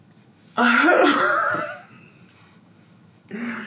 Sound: laughs

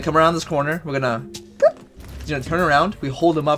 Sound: bloop!

